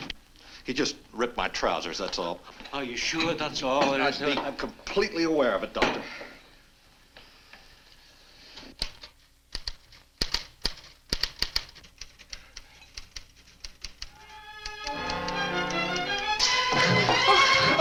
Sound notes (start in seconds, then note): 8.6 typewriter clacks; 14.2 tense orchestral music